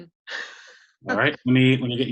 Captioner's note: laughing